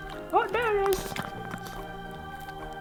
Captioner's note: Spudgy voice